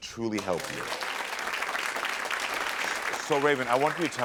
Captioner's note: audience applaud